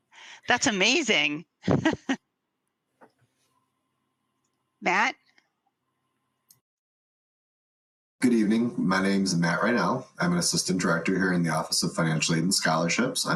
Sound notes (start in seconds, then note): 1.6 laughs